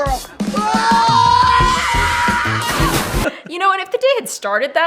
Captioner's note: screaming